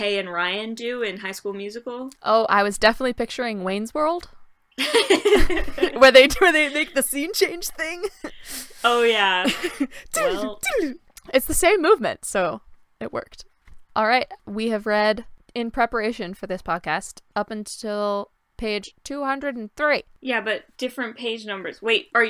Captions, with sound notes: and Ryan do in High School Musical -Oh, I was definitely picturing Wayne's World (laughter) where they make the scene change thing -Yeah -It's the same movement, so, it worked. Alright, we have read, in preparation for this podcast, up until page 203. -Yeah but different page numbers--wait are